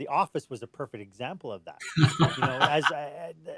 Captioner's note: laughs